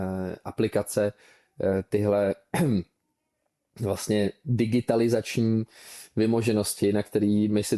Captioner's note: clears throat